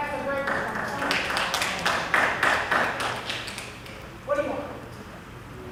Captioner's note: applause